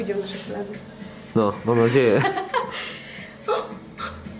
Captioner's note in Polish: śmiech